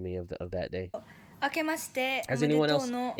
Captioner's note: speaking in foreign language